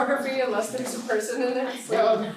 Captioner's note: laughing